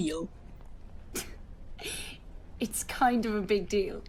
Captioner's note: Marlene laughs